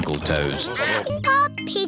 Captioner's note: duck quacking